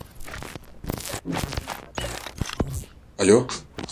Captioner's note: static noises